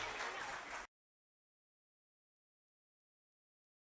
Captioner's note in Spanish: Silencio